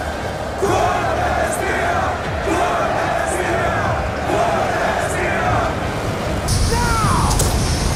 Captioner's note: crowd